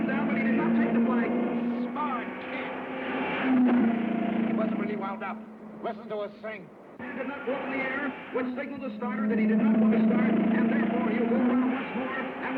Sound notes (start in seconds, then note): 2.9 car revving